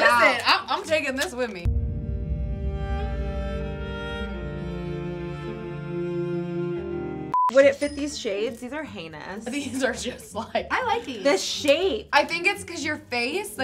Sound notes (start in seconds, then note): 1.6 dramatic music; 7.3 beep